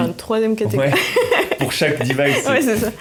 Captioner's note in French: Rires